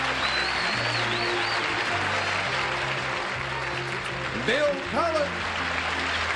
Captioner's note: applause